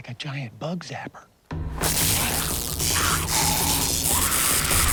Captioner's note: zapping, groaning